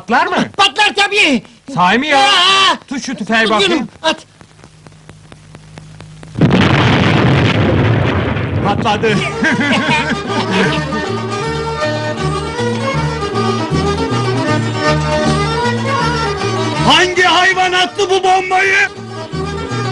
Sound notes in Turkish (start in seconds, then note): 6.3 bomba büyük bi̇r gürültüyle patlar